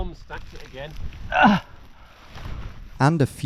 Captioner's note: grunting